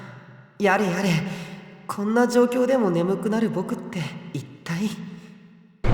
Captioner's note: sigh